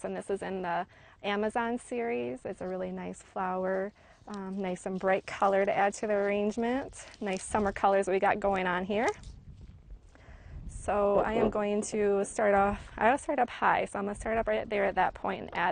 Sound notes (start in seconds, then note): 10.9 scraping